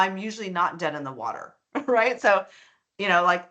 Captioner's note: chuckling